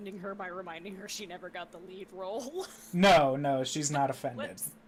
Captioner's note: laughs